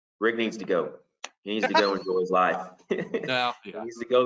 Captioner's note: laughs